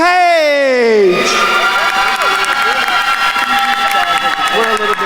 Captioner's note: attendees cheering and applauding